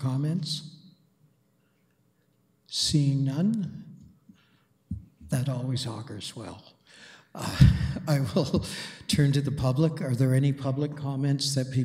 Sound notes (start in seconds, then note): 7.4 chuckles